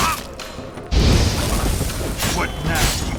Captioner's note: cries out; flames whoosh